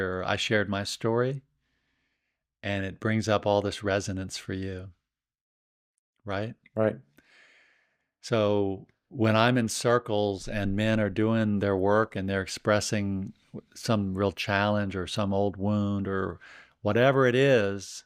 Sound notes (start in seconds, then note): none